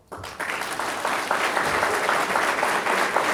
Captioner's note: applause